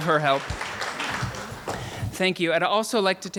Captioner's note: applauding